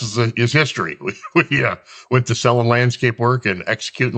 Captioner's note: laughs